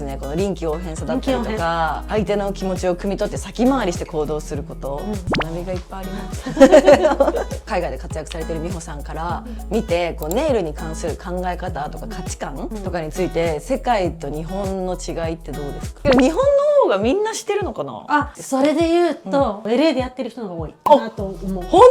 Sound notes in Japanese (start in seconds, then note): 6.5 笑い